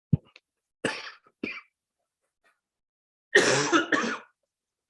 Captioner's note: coughing